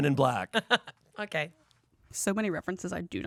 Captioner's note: chuckles